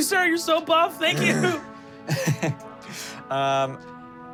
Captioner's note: chuckle